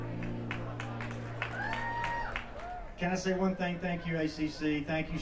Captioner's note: applause